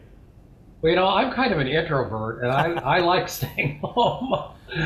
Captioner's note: laughing